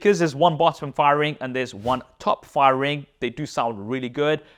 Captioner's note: air whooshes